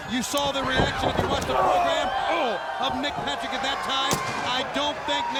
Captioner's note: body thudding